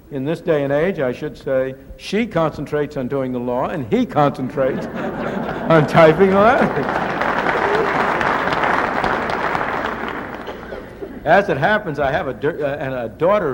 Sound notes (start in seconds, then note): 8.9 applause